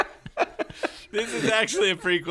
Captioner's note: laughing in the background; laughing; laughs; laughing